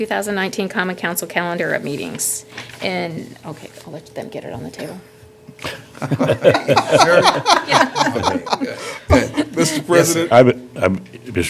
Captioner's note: laughter